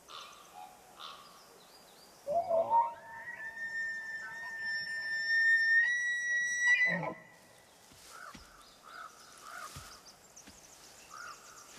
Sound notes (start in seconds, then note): 2.3 high-pitched call